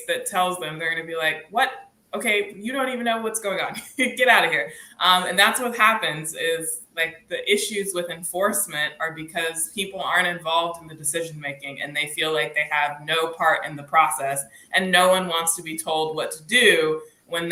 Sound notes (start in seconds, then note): 3.9 laughs